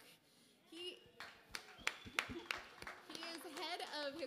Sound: applause

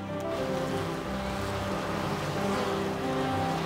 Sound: buzzing

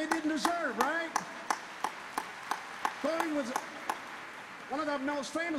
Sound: applause

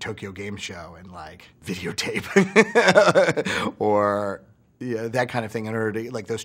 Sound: laughs

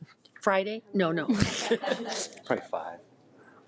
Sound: laughs

